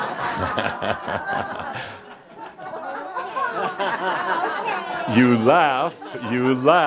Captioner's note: laughter